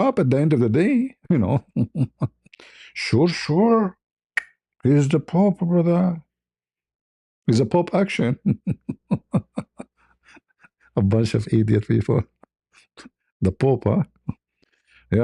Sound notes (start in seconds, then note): 8.3 ketawa